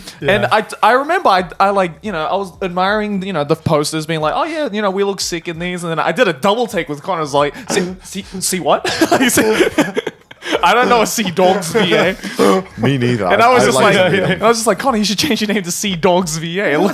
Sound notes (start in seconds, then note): 8.7 laughing